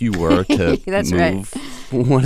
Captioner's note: laughter